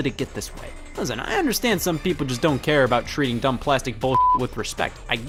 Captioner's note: beep